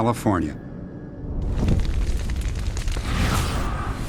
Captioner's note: flames crackling